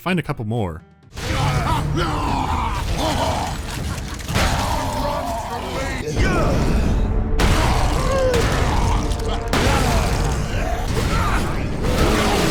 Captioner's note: sounds of brutal carnage and screams of orkish pain